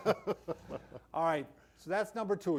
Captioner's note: laughs